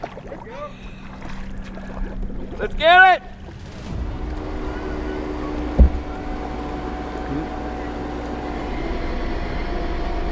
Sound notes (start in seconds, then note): 3.3 engine revving